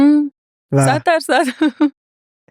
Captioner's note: laughs